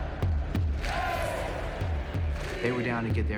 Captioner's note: crowd